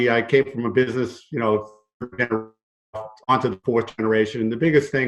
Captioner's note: audio glitch